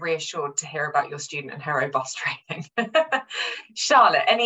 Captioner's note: chuckles